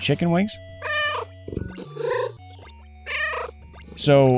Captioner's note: meow